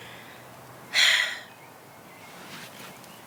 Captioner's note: sighs; birds chirping